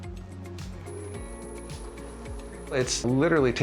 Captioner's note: machine whirring